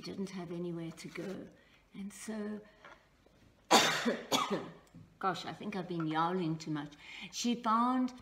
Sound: coughs

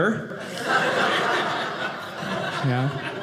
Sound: audience laughing

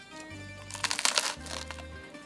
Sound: Crunch

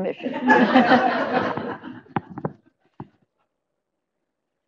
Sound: laughter

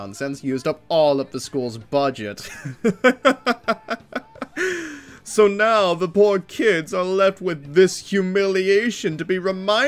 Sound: laughter

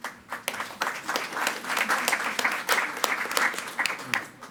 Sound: attendees clapping

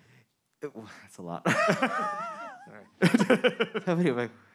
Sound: man laughing

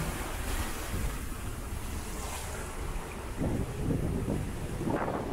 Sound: wind blows and waves splash

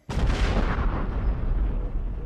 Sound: loud explosion

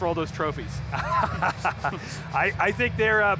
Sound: laughs

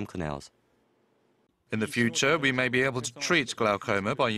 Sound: Korean

